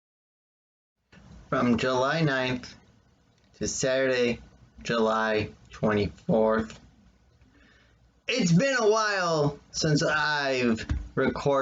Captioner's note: thump of phone against desk